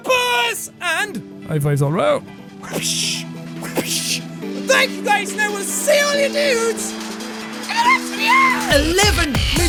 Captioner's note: wa-psh, wa-psh